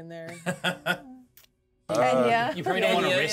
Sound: speaker laughs

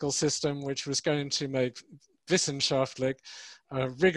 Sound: speaks in foreign language

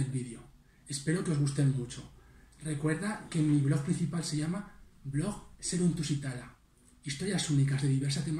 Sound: in Spanish

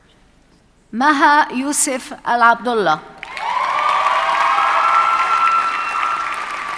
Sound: audience cheers and applauds

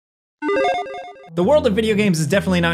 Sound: electronic chiming

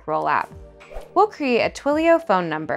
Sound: whooshing

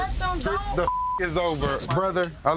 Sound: beep

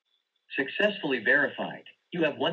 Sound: on phone

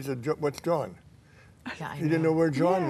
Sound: laughs

